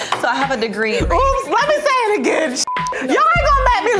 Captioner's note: beep